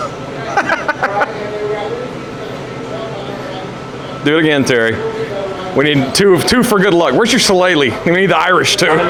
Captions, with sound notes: [Laughter] Do it again Terry. We need two for good luck. Where's your solale? We need the Irish too.